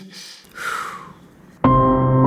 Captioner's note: blows; eerie music